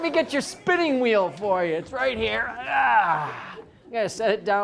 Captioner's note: grunts